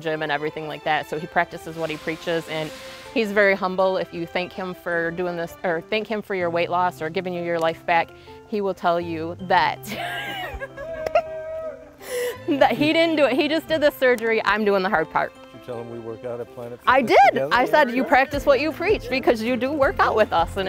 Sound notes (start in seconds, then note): 9.9 laughs